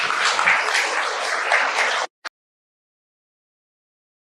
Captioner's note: applause